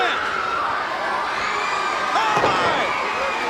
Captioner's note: crowd cheering; Ric thudding on ring